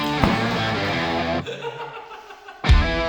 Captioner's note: man Laughing; hard Rock Music Continues